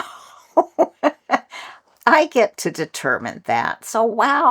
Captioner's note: laugh